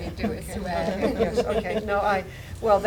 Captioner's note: laughter